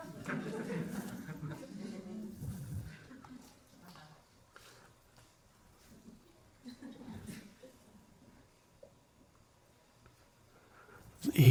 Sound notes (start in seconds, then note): 0.0 crowd laughs